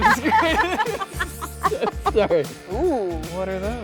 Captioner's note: couple laughing